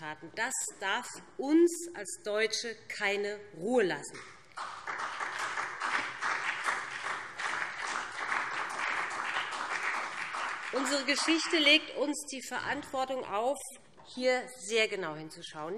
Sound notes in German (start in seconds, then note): 4.5 Beifall BÜNDNIS 90/DIE GRÜNEN und CDU